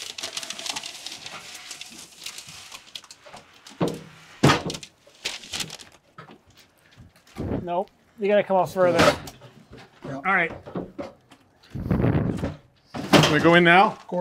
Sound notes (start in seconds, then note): 0.0 insulation paper rustling; 4.1 door thumping; 9.7 doorframe thumping; 11.5 doorframe thumping